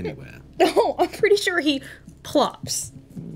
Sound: laughs

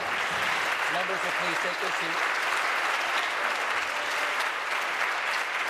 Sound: applause

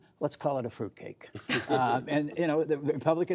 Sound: laughter

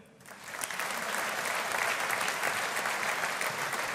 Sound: audience applauding

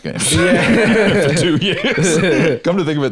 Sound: laughing

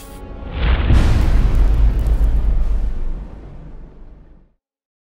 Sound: impact

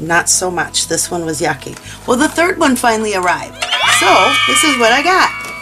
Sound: happy Screaming

